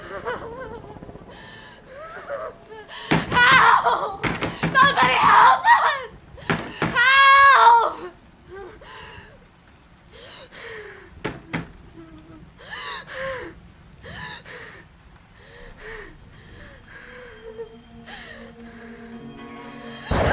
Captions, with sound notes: (Stephanie whimpering) Help, somebody, help us! (hand banging) Help! (hand banging) (suspenseful music)